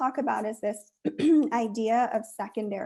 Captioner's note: clears throat